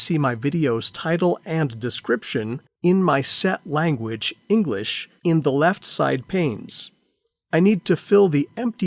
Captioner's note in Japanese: 英語